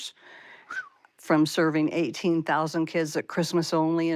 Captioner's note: whistles amazement